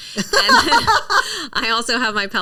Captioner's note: laughing